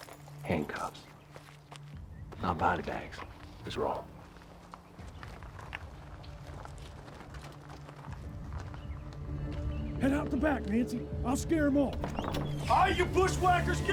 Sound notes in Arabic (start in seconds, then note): 3.8 خطوات; 12.0 صرير الباب مفتوحًا